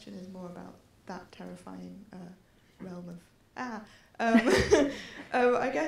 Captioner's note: laughter